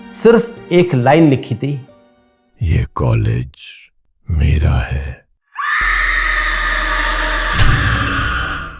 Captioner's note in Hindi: चीखने की आवाज़